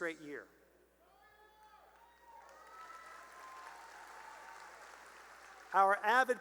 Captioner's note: cheering and applause